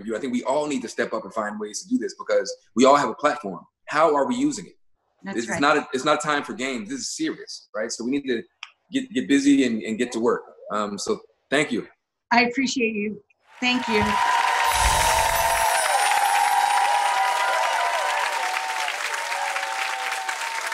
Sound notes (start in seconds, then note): 13.6 crowd cheering